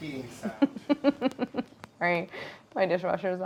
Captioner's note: Claire laughs